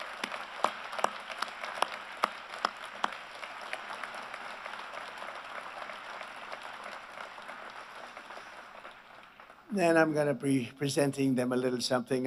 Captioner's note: applause